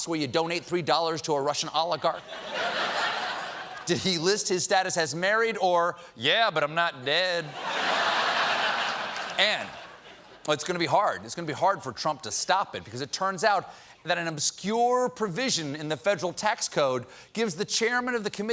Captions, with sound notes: DONATE $3 TO A RUSSIAN OLIGARCH? ( LAUGHTER ) DID HE LIST HIS STATUS AS "MARRIED" OR "YEAH, BUT I'M NOT DEAD"? ( LAUGHTER ) AND IT'S GOING TO BE HARD FOR TRUMP TO STOP IT, BECAUSE IT TURNS OUT THAT AN OBSCURE PROVISION IN THE FEDERAL TAX CODE GIVES THE CHAIRMAN OF THE